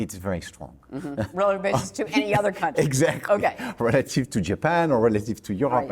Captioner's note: laughs